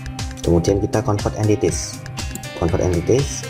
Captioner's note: click